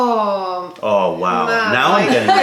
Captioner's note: laughter